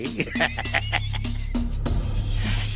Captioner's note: laughing